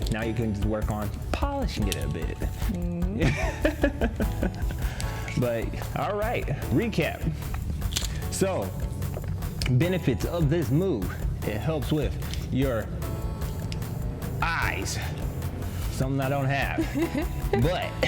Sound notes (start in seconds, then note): 2.9 laughs; 16.7 laughs